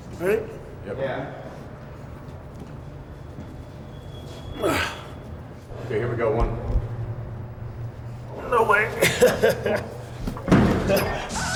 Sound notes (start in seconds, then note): 4.6 Shawn grunts; 8.4 laughs